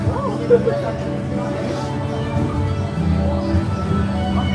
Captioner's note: car running; soft orchestral music